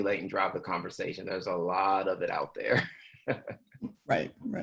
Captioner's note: chuckles